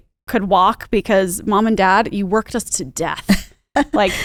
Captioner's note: laughs